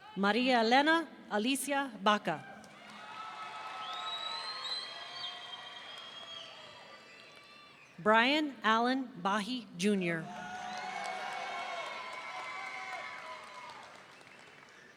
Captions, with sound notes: Maria Elena Alysia Baca. (audience cheering) Brian Allen Bahe Jr. (audience cheering)